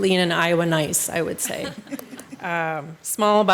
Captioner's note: councilors laughing